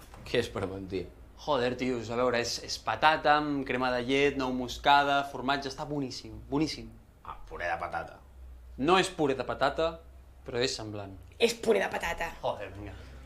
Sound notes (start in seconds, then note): none